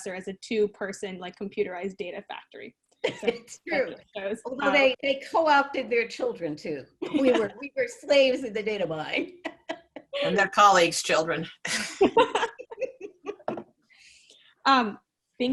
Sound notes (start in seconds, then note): 9.7 laughs; 11.9 many laughing